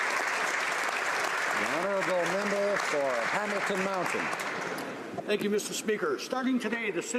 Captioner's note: applause